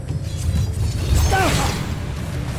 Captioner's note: sword swoosh; powerful splash; grunts; evil energy whoosh & crackle